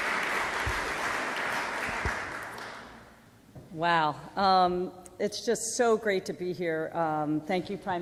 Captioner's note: applause